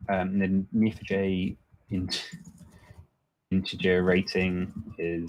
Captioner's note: chuckles